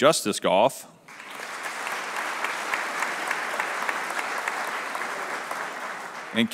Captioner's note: applause